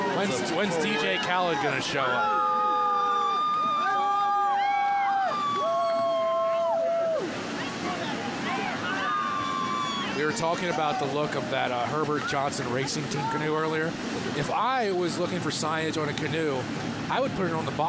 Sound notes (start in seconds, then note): 8.8 cheering